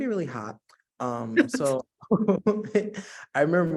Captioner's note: laughing